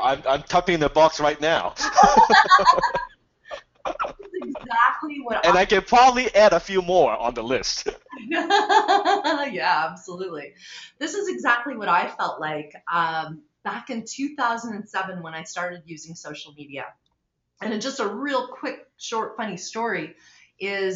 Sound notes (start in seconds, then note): 1.0 laughing; 8.0 laughing